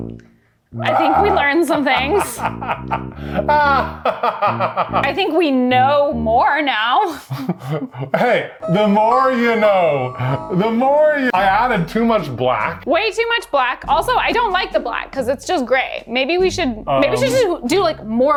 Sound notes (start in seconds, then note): 3.5 laughing